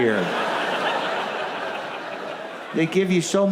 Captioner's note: audience laughs